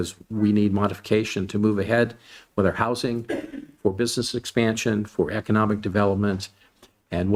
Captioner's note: clears throat